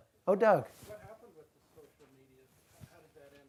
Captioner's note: voiceover